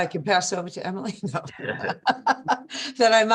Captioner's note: laughter; laughing